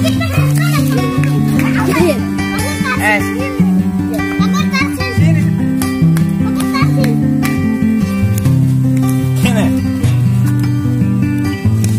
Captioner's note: children sounds